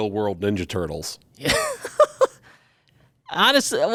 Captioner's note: laughs